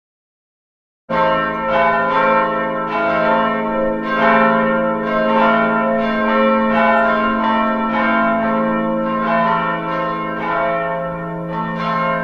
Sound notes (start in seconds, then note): 1.1 sound of church bells